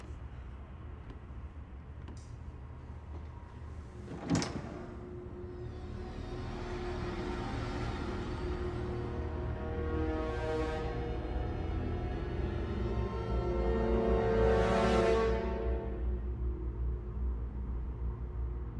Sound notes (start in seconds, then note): 3.9 closet doors open; 5.1 ominous music